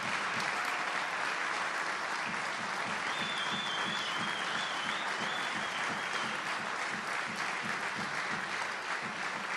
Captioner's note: applause